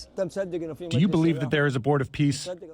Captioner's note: through translator